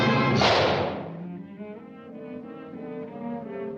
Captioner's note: glove slaps; somber music